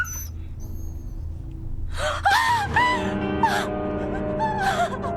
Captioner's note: gasping